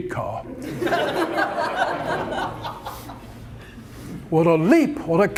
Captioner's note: audience laughter